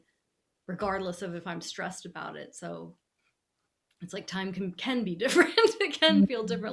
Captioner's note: laughing